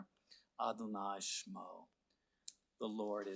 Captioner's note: speaking Hebrew